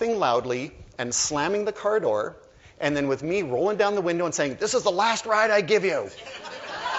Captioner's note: laughter